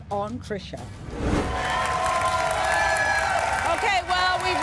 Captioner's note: audience cheering